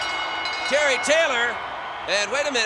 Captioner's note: bell rings